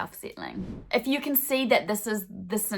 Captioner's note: swooshing